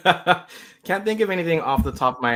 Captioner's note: laughs